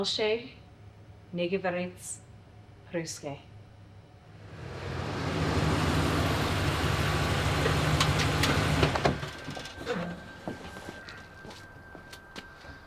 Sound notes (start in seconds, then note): 0.2 Elise speaking French; 4.2 SUV engine humming